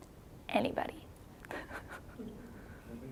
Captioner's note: chuckling